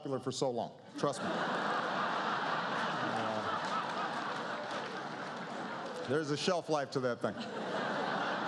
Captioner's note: laughter